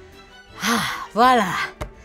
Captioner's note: sighs